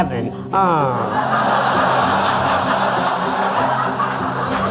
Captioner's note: audience laughing